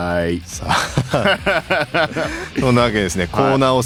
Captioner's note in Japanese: 笑い